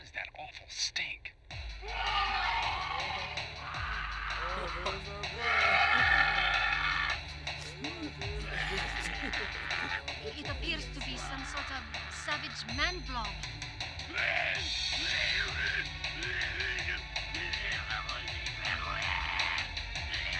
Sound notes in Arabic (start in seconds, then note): 0.3 صراخ; 2.3 يضحك; 5.3 صراخ; 6.3 يضحك; 12.3 صراخ